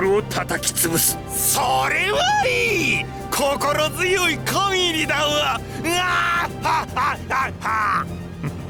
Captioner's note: laugh